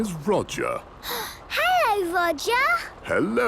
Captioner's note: gasps